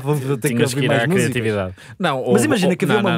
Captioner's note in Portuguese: risos